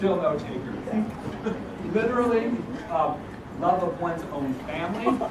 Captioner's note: laugh